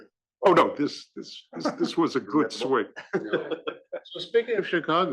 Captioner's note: laugh